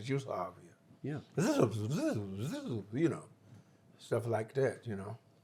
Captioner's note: imitates juice harp sounds